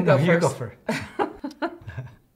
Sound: laugh

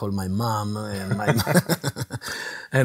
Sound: laugh

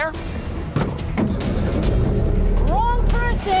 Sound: car rumbles

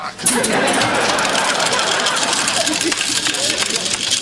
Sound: coins jingling

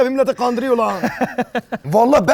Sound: laughs

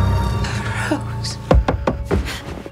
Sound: knocking on window

